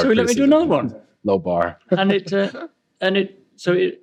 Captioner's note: laughs